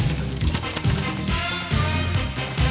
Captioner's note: camera equipment clicking; upbeat music